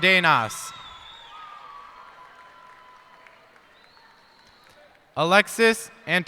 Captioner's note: cheers and applause